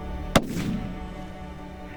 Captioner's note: gun shot